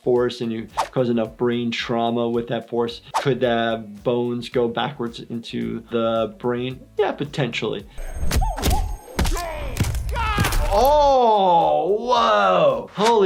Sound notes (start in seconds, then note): 8.2 punches thud; 9.1 bones cracking